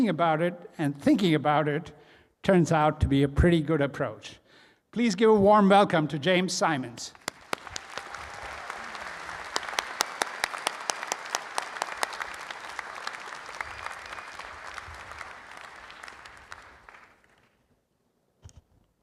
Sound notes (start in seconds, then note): 7.1 all applauding